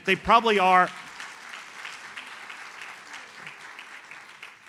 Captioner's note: audience applauds